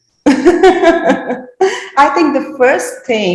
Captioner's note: chuckles